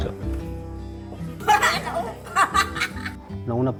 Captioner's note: laughs